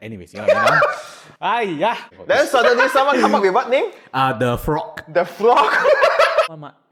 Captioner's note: laughs